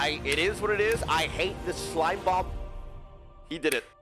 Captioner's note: Tyler1 clapping rhythimcally